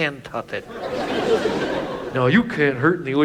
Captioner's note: audience laughs